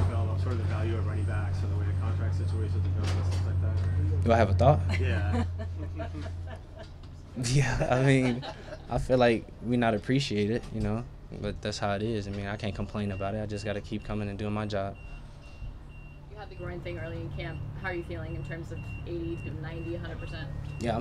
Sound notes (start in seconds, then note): 5.8 reporters laughing